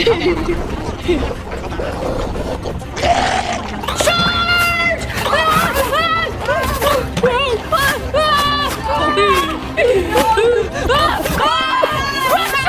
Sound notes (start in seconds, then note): 0.0 giggling; 3.1 Super Mega-Germ growling; 5.4 sisters screaming; 9.1 giggling; 11.1 sisters screaming